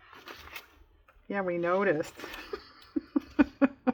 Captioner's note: laughs